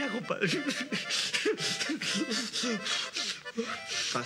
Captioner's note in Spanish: sollozos